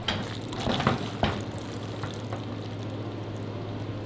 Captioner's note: macaroni sloshing